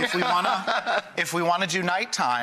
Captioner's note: laughter